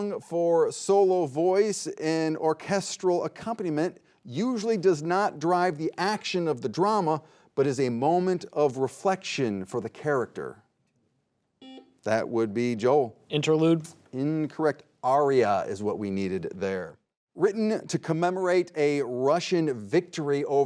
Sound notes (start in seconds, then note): 11.6 buzzer buzzing